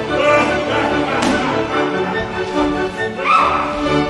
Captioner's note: laughs